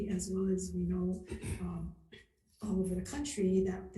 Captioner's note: clears throat